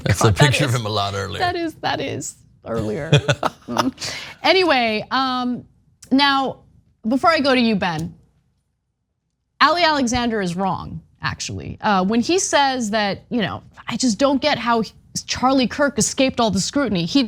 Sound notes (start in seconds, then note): 2.8 laugh